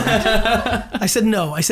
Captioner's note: group laughs